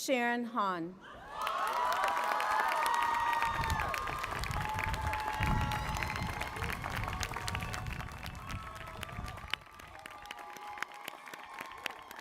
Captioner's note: applause